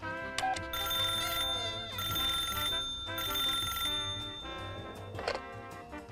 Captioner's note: dialing; phone ringing